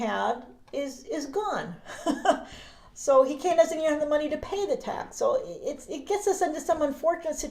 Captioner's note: chuckles